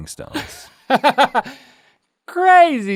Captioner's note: Link laughs